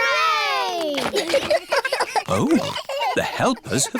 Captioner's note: giggles